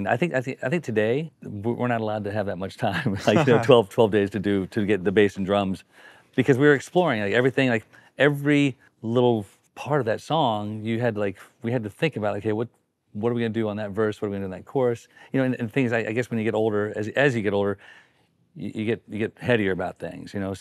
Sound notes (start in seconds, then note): 3.0 group laughing